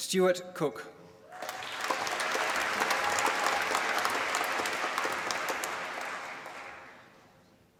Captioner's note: applause